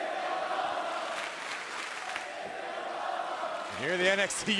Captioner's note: fans chanting